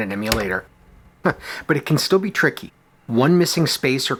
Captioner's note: chuckles